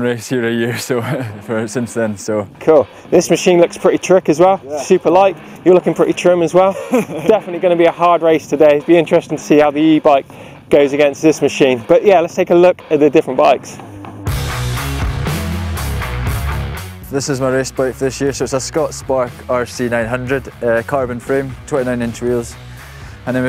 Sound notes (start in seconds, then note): 6.6 laughs; 14.3 upbeat rock music